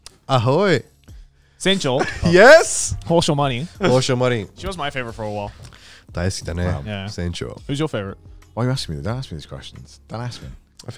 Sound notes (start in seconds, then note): 1.7 speaking in foreign language